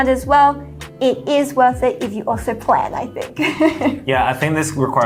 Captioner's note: laughs